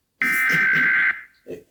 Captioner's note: buzzer